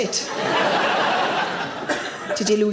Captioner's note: audience laughs